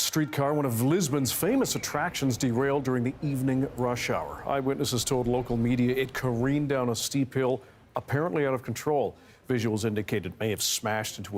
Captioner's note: siren wails